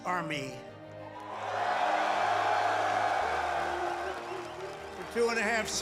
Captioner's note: cheers and applause